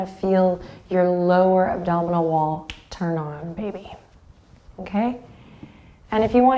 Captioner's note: snaps